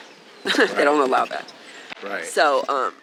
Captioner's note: chuckling